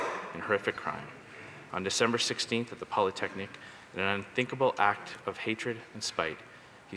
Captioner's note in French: voix de l'interprète